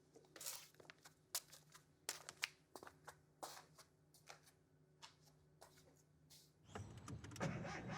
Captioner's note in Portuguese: chinelos arrastando